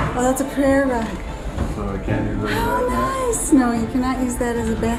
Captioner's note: none